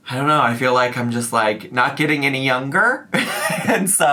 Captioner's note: giggles